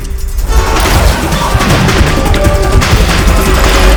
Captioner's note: honking horn